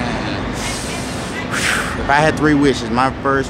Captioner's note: loud breathing noises